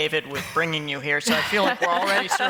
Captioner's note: laughter